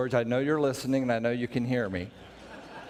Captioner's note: background laughter